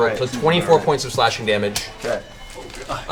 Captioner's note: grunts